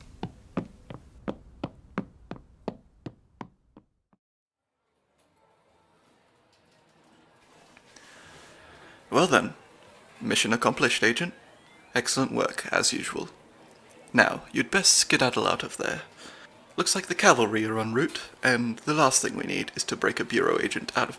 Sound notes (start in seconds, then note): 0.0 footsteps; 9.2 casino ambience